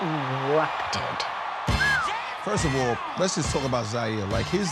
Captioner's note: whistles